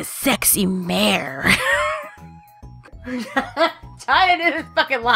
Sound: laughs

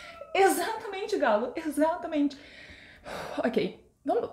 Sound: rooster noise in the background

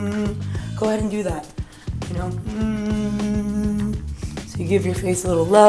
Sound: humming

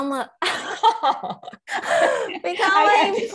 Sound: both laughing

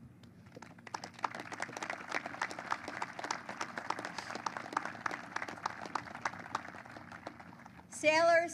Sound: applause

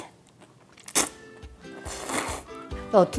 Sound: slurps

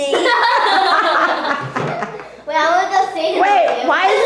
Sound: laughter

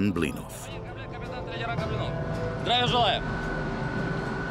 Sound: Russian spoken audio

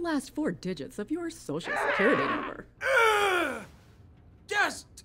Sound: grunts

